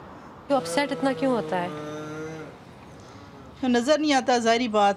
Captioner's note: speaking in foreign language